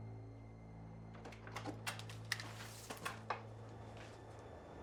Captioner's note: door opening